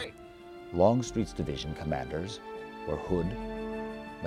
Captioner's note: voiceover